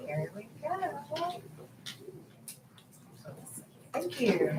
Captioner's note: camera clicks